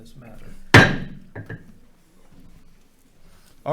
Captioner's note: gavel bangs